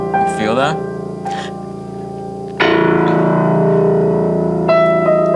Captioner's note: hits key; playing piano